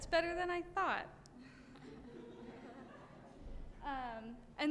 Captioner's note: chuckling